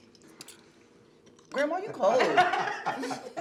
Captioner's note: family laughing